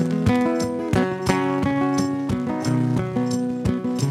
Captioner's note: none